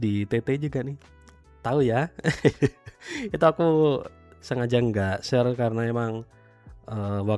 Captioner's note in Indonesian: tertawa